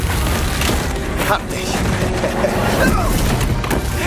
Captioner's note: in German; chuckles